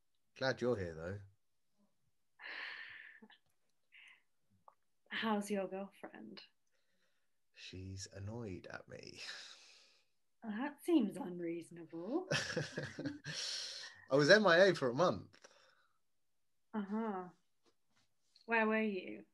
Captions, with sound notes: - Glad you’re here though. - How's your girlfriend? - She’s annoyed at me. - Well, that seems unreasonable! [DANNY CHUCKLES] - I was MIA for a month! - Uh huh. Where were you?